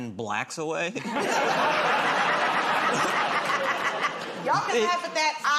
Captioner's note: laughter